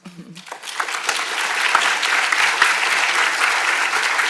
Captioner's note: audience applauding